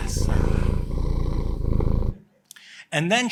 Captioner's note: cat purring